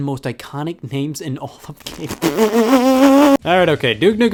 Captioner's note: stifles laughter